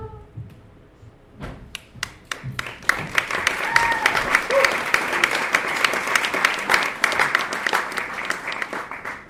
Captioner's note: applause